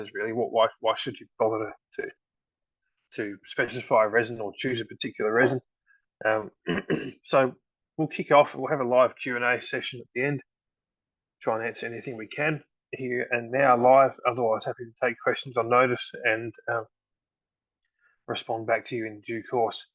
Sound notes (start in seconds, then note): 6.6 clears throat